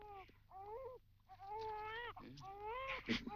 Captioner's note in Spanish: laughing